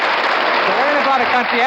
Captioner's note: audience applauding